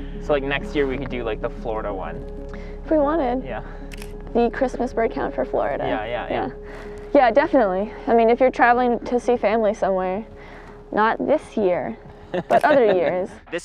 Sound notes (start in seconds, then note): 3.9 camera clicks